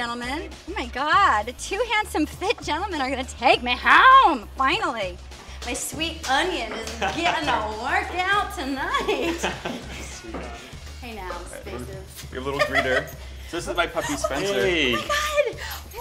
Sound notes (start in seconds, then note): 9.0 laughter